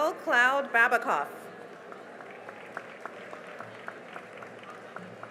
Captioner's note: cheering and applause